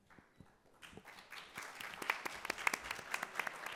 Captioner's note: audience clapping